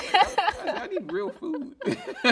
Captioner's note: laughing